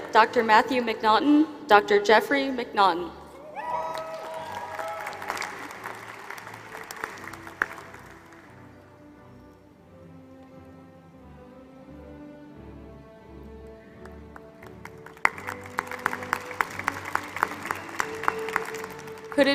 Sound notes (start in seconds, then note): 3.6 applause